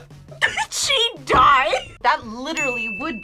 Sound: laughs

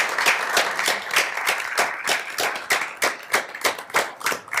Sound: audience applauds

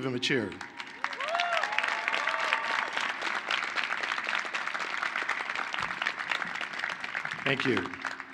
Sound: applause

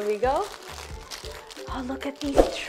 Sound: crunching

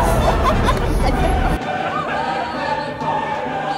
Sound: they are dying of laugher LOLLL

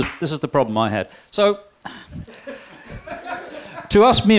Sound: laughter

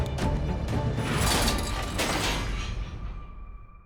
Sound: suspenseful music playing; clattering; tense music playing

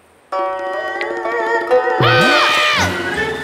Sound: screaming

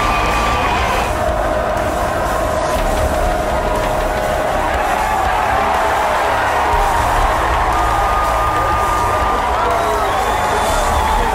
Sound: sportscaster yelling in background

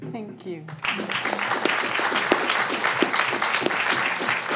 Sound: applause

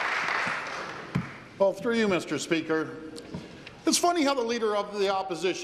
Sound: applause

